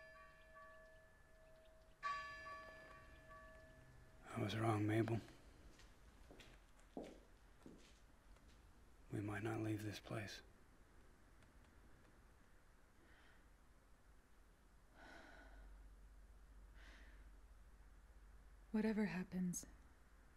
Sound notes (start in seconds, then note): 15.0 Mabel sighs